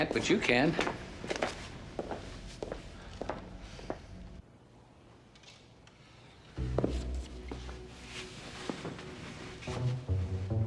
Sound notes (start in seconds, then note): none